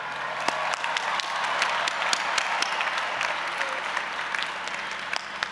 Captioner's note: audience applauding and cheering